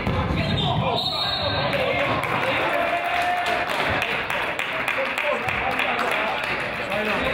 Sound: whistle blows; crowd applauds and yells

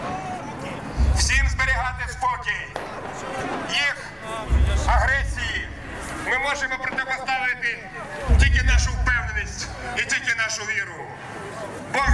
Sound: voice-over

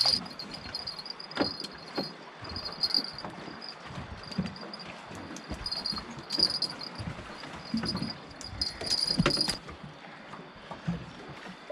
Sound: jangling

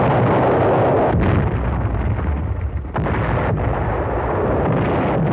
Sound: explosions

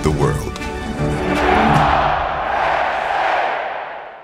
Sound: cheer

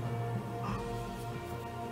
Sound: gasps

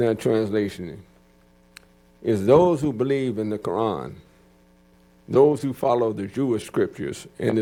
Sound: speaking arabic

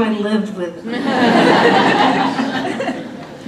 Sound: laughter

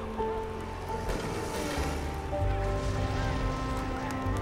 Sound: recollected shouting continues

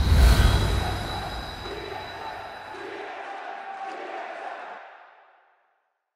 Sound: tsm tsm tsm tsm tsm

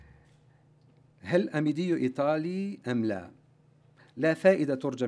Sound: arabic speech

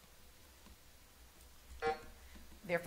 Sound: buzzer sounding

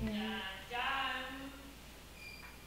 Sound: voice echoing; imitating creepy piano

